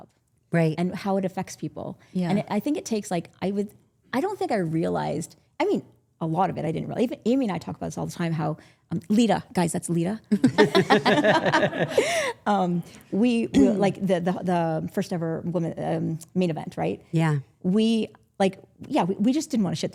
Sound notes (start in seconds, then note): 10.3 group laughing